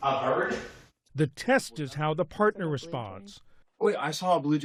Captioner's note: voice-over